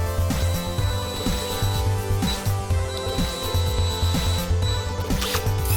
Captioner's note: high pitch drill sounds; drill revs